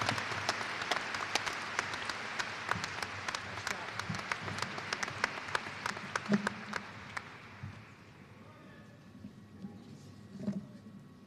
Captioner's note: applause